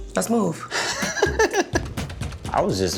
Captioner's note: laughs